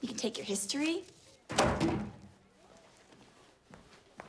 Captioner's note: book thuds